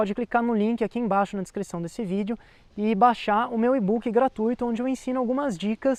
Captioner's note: in Portuguese